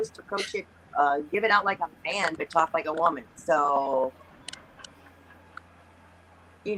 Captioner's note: laughs